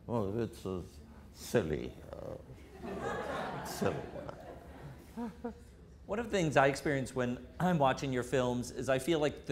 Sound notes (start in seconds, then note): 2.7 audience laughter